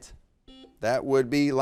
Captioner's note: buzzer beeps